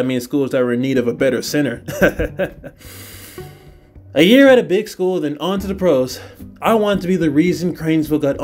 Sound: chuckles

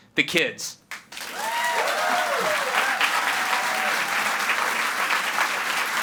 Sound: audience applauds and cheers

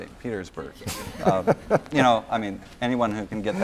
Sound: laughter

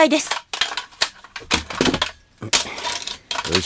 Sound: SFX: Setting up the ladder

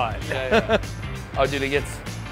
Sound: laughing

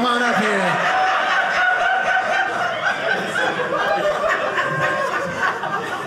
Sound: audience laughing

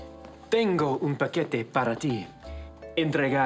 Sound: in Spanish

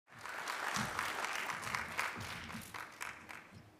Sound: audience applauding

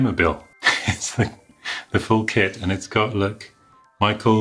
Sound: chuckles

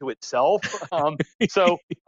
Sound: laughs

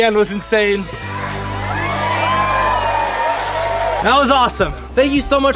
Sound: crowd cheering

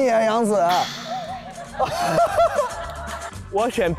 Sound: haha

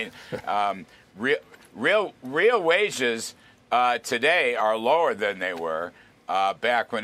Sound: laughter

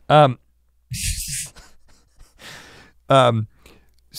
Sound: laughs

